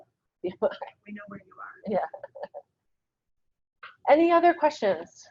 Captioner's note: laughs